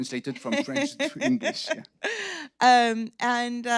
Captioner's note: laughing